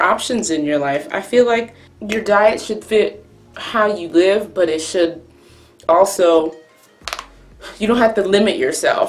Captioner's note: cracks knuckles